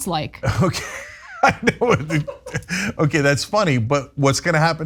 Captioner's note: laugh